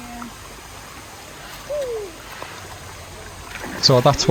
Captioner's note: making whooping noises